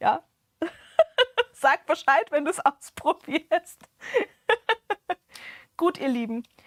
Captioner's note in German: Gelächter